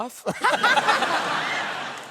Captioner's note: laughter